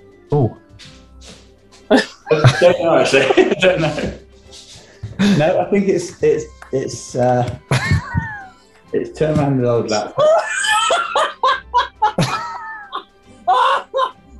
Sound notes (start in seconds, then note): 1.9 laughter; 7.9 sniggering; 10.1 howls of laughter